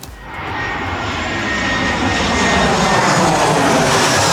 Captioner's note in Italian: Suono dell'aeroplano